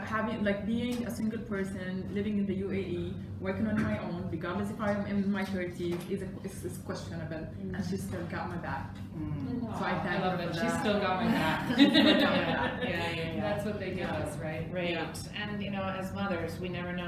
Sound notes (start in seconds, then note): 11.2 laughter